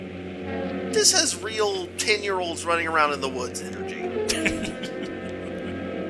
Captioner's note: chuckles